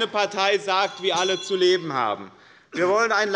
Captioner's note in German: Anhaltende Unruhe - Glockenzeichen des Präsidenten